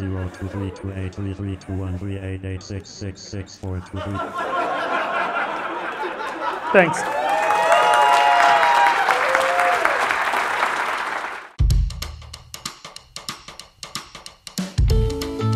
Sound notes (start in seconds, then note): 2.3 laughter; 5.9 applause